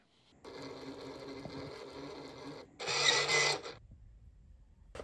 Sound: printer whirring

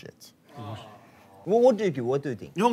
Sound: moaning sound of advertiser

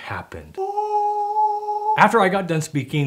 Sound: high pitched groan

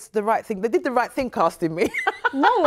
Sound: laughs

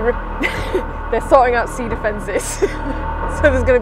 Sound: loud, Groaning, Metal Scraping Noise

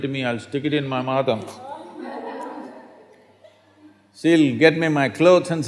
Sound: few laugh

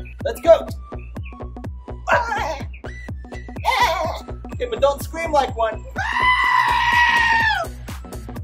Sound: goat bleets

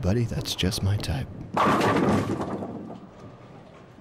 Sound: bowling pins falling

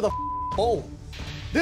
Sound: beep

